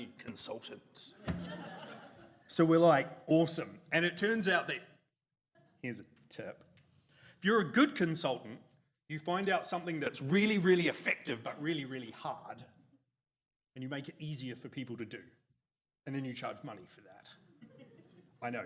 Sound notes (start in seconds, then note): 1.2 audience laughs